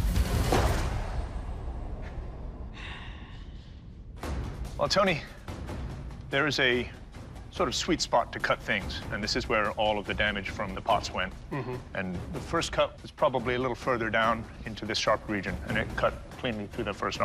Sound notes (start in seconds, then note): 2.5 sighs